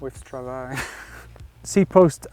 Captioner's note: laughs